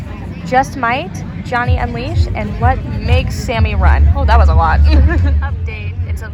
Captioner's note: laughing